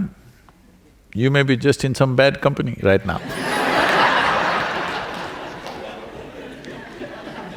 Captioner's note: laughter